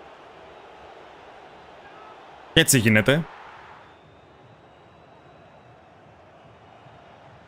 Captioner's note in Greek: χειροκρότημα